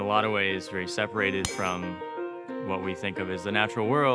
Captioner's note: metal clinking